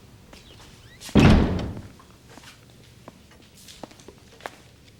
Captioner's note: door slams shut